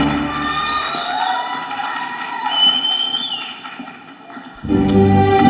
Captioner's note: audience cheering; ceremonial music